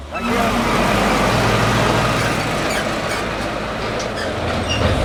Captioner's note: truck roaring